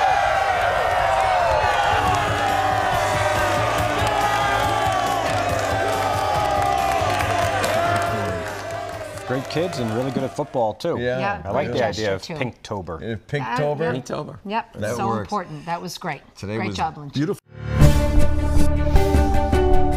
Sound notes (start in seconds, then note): 6.9 students cheering